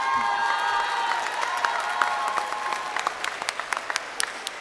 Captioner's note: snorts; graduates cheering